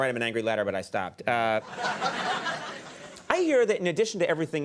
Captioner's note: audience laughing